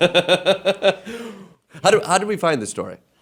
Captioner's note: laughing